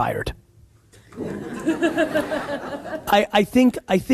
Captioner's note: audience laughs